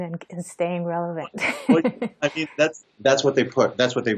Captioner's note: laughs